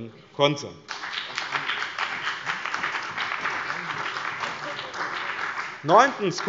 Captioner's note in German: Beifall bei dem BÜNDNIS 90/DIE GRÜNEN und der CDU